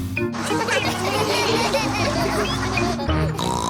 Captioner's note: laughter